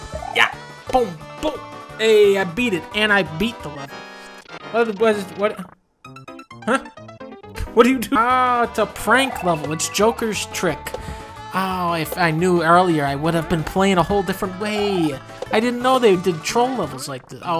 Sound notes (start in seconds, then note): 5.5 stuttering; 6.6 laughing